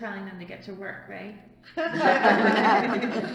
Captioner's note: all laugh